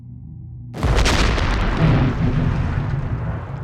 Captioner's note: loud explosion